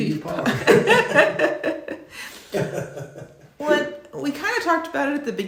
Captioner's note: both laughing